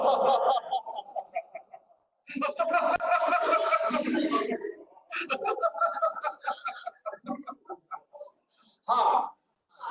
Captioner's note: laughter